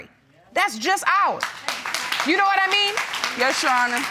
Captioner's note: audience applauds